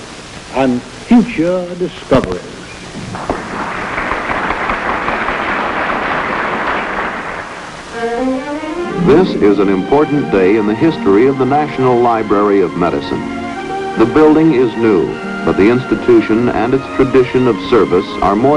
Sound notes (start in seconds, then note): 3.0 applause